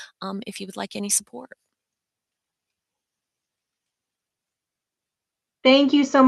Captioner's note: silence